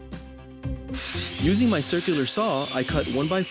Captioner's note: saw whirring